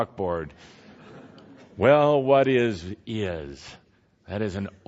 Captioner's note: laughter